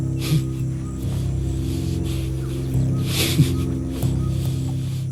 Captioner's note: panting heavily